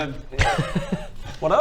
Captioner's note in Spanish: risas